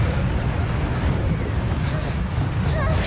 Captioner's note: panting